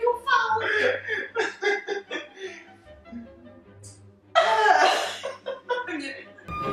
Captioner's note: laughs